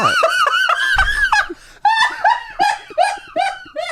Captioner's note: laughs